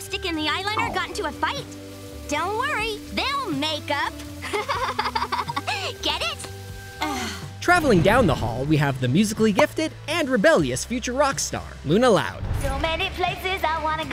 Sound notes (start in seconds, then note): 4.4 laughing; 6.9 sighing